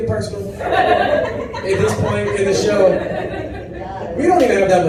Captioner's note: laughter